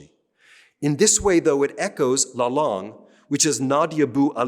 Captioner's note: speaking french